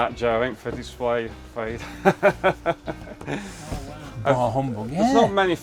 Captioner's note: laughing